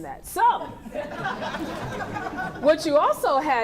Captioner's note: laughing